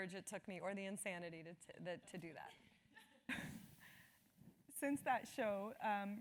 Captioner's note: laugh